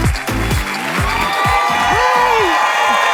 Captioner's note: applause; cheers